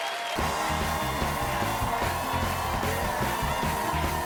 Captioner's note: cheers and applause